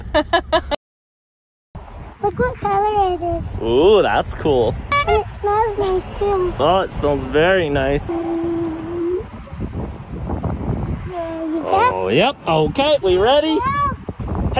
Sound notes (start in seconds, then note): 0.1 laughs; 4.9 horn honks